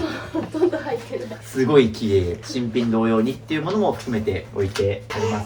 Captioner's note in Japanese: 笑い